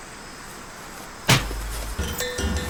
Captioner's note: smack